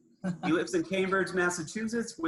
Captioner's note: laughs